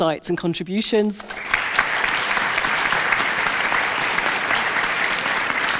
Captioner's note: audience applauds